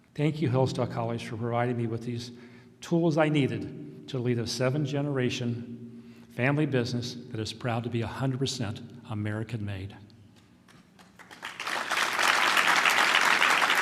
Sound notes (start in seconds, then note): 10.9 applause